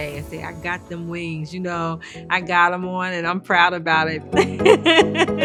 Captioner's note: laughing